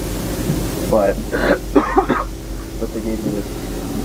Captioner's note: loud Cough